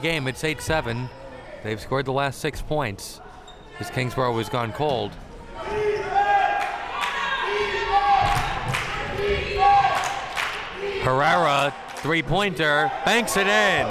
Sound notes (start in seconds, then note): 5.6 spectators chanting defense